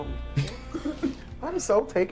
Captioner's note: chuckles